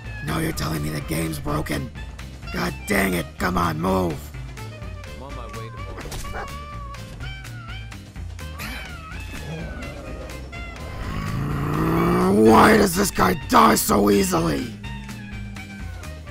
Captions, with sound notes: Now you're telling me the game's broken?! God dang it! Come on, MOVE!!! [Extremely frustrated growl] WHY DOES THIS GUY DIE SO EASILY?!